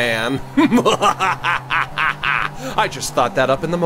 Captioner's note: laughs evilly